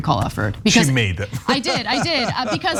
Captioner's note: laugh